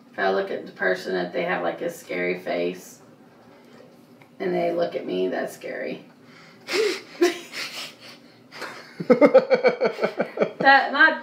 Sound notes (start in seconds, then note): 6.8 laughing; 8.8 interviewer laughing